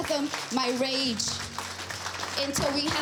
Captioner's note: crowd clapping